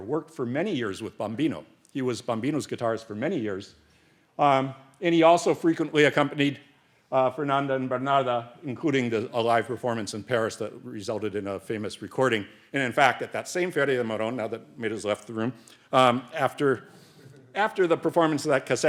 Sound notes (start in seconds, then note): 13.8 speaks Spanish